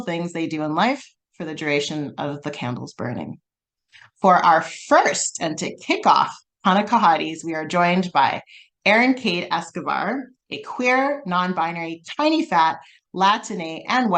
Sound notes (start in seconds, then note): none